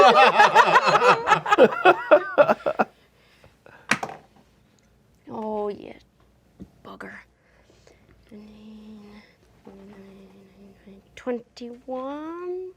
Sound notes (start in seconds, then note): 0.0 laughing; 4.1 dice clatter